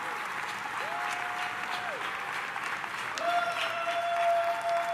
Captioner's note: attendees cheering